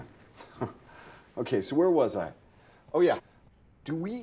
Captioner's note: scoffs